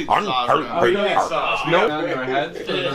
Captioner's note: exaggerated chomping sounds; background chatter